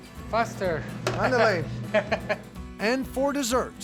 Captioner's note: laughter